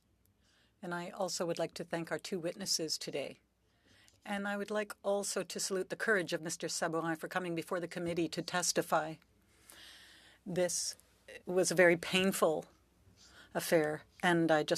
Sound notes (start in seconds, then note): 5.3 speaking French